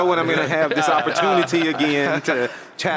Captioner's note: laugh